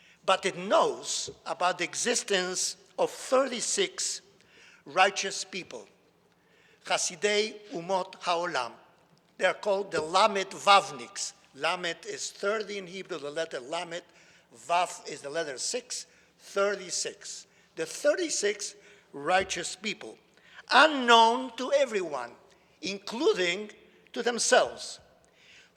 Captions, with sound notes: but it knows about the existence of 36 righteous people. (speaks in foreign language) they are called the Lamed Vavniks. Lamed is 30 in Hebrew, the letter Lamed. Vav is the letter six. 36. The 36 righteous people. Unknown to everyone, including to themselves